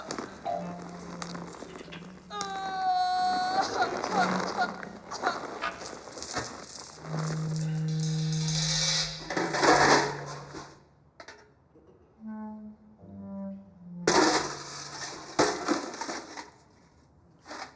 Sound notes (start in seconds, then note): 6.1 chain rattling; 9.6 chain falling into metal bucket; 14.4 bucket rattling